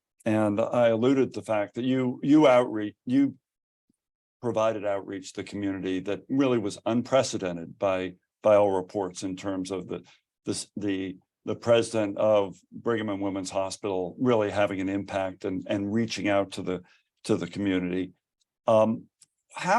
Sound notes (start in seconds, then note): none